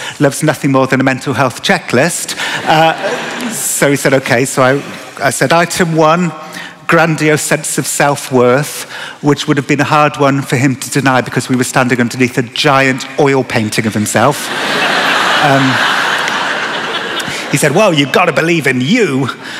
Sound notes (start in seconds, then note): 14.4 laughter